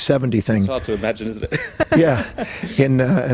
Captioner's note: laughs